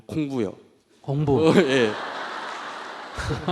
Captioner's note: audience Laughter